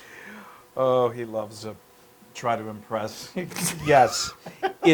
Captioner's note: laugh